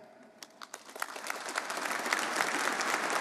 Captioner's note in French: Applaudissements